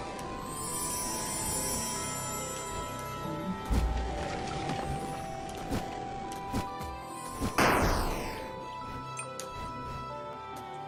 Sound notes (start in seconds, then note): none